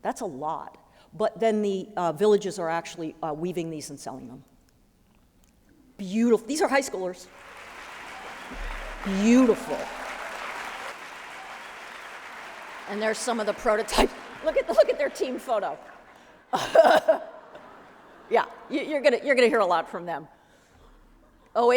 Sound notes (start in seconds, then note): 7.6 applause; 16.7 laughs